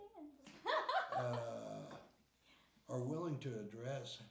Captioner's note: laughing